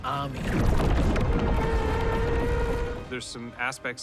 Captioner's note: screeching